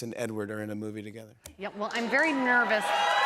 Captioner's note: cheers and applause